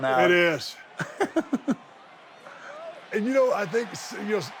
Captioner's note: Sami laughs